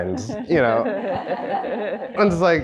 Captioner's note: audience chuckling